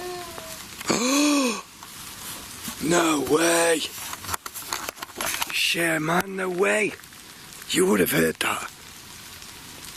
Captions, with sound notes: (wailing) (gasping) No way! Yeah, man, no way! You would've heard that.